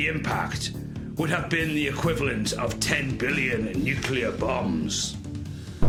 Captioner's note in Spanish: Explosión